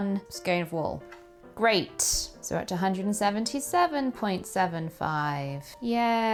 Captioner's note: unenthusiastic yayyyyyy